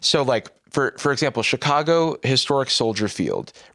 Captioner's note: none